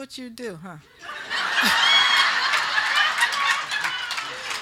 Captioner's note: group laughing